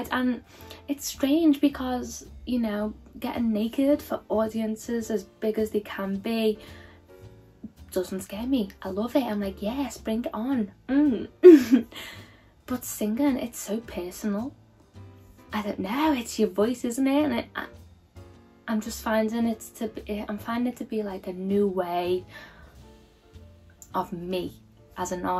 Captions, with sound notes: and it's strange because you know, getting naked for audiences as big as they can be doesn't scare me. I love it. I'm like, "Yes, bring it on." (chuckles) But singing it's so personal. I don't know. It's your voice, isn't it? And I- I'm just finding it's .. I'm finding it to be like a new way of me as an artist,